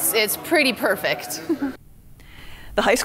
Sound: giggles

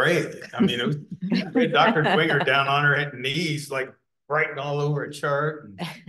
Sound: laughter

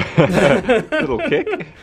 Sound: they laugh

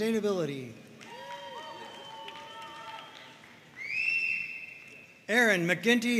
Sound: audience cheering and applauding

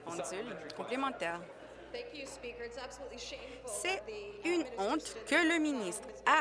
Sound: mixed voices

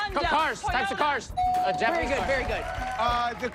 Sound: bell dings

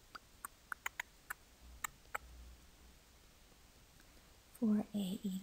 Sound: instructor tongue clicking

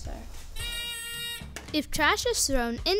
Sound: beeping

